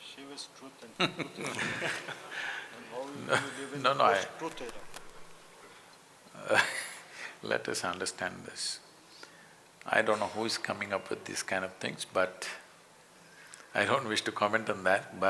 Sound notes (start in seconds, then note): 4.5 laughs